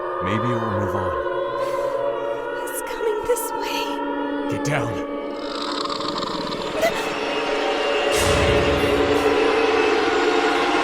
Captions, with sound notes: Maybe it will move on? WRAITH (SHRIEKS) ROSALIND It’s coming this way. DAN Get down. WRAITH (SHRIEKS) ROSALIND (SURPRISED CRY)